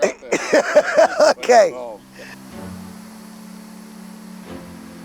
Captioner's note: laughing